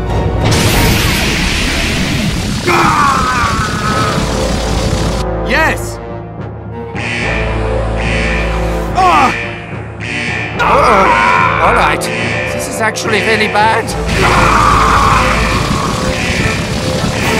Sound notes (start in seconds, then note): 6.9 alarm begins to sound off